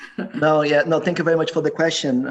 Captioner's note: laughing